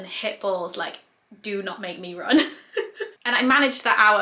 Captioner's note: laughs quickly